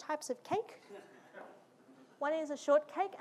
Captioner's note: audience laughing